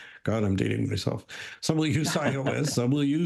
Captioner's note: chuckles